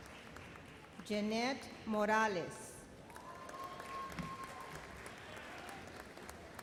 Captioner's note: audience applauds